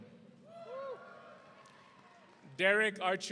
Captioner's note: audience cheering